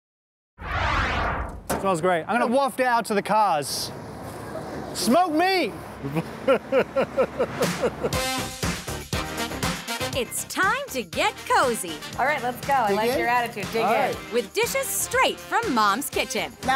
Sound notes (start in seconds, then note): 6.0 laughs; 7.7 upbeat instrumental music